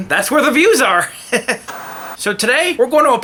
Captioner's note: TV static